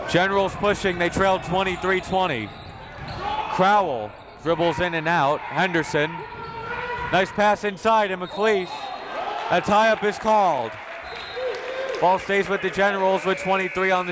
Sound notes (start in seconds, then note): 8.2 whistle; 13.8 buzzer